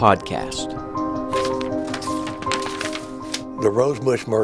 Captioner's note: paper shuffling